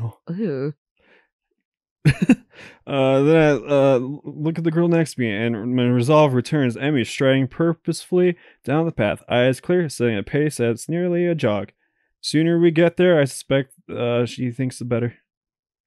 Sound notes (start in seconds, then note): 2.0 chuckles